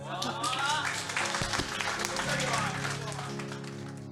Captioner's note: applause